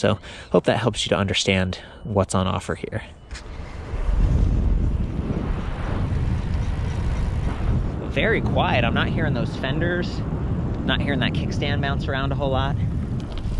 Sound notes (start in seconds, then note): 3.5 wind rushing; 6.3 chain buzzing